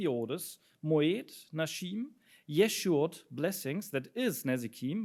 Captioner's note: speaks in foreign language